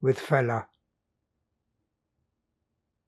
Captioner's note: pauses 6 seconds